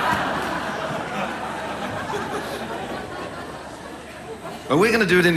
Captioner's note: audience laughs